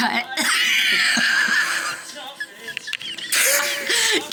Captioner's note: laughs